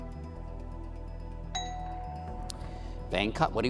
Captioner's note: intense music; bell dings